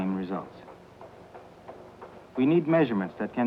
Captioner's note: treadmill thumping